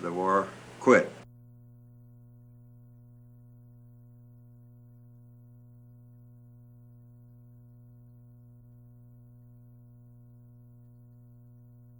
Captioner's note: silent